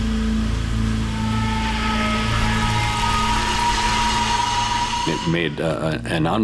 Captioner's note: ominous music; fire hissing